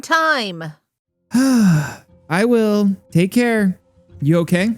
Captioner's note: sighs